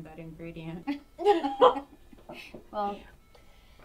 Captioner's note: laughs